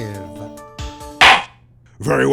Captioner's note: gavel slams!